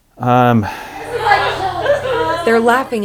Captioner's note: family Laughing